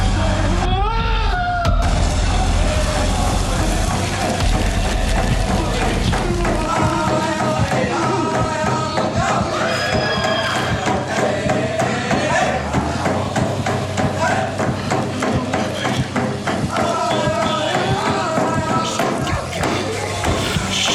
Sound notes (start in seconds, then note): 0.3 Scott screams; 0.3 drums beating; 3.2 machines buzzing; 3.2 trees rustling; 6.2 drums beating; 6.2 group chanting; 15.7 drums beating; 15.7 group chanting